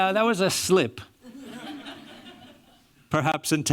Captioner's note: laughter